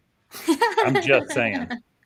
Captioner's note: laughter